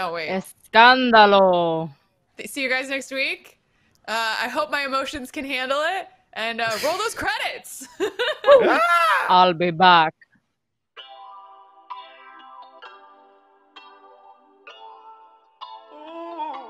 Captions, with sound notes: so I cannot wait. (speaking in foreign language) See you guys next week. I hope my emotions can handle it and roll those credits. (laughing) - I'll be back (calm music)